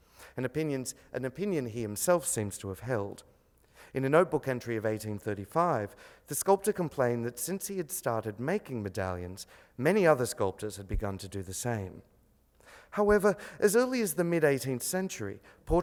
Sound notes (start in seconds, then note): 4.2 speaks foreign language